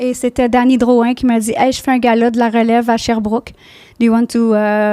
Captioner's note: in french